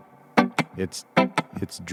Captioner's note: beat boxing